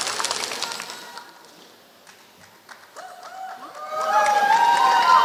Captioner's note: applause